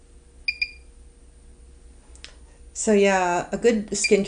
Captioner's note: machine chirps